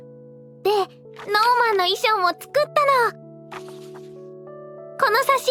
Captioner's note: flips page